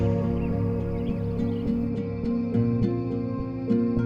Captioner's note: birds chirp